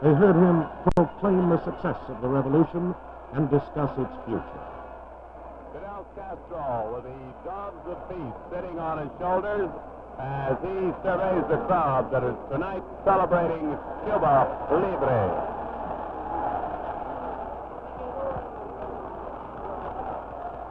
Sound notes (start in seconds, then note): 16.0 cheering